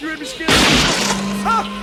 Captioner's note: back window breaks